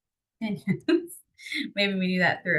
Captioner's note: chuckles